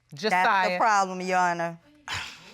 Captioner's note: scoffs